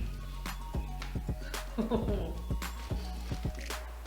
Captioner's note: chuckles